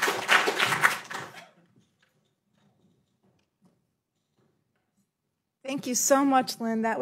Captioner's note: applause